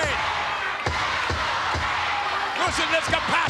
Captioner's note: spectators cheering